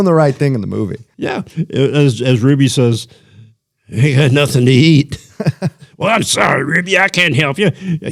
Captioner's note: laughter